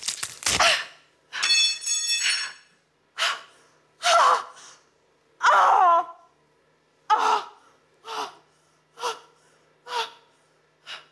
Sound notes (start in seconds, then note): 1.5 rebar clangs; 4.0 Anna grunting